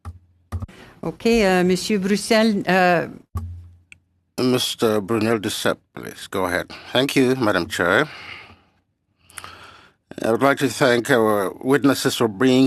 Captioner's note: speaking French